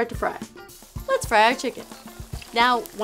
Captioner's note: sizzling